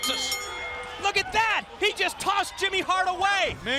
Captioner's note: bell ringing